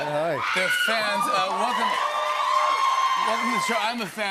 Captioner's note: cheers and applause